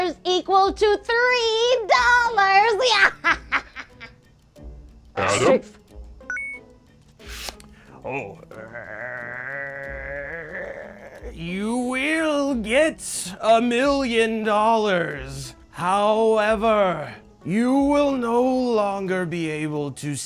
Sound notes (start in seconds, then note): 2.8 cackles exaggeratedly; 6.5 bonus point chimes; 8.1 growls